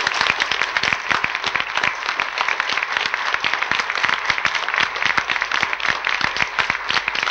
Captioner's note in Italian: applausi